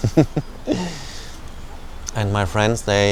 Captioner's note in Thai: เสียงหัวเราะ